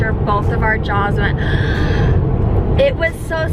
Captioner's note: inhaling loudly